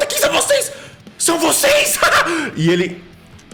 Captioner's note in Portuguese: risos